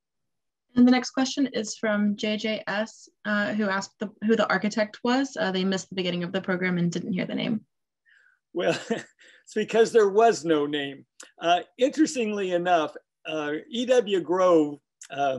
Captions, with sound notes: - And the next question is from JJS who asked who the architect was, they missed the beginning of the program and didn't hear the name. - Well, because there was no name. (chuckling) Interestingly enough, E.W. Grove,